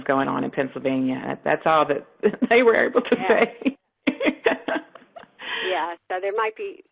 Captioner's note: laughs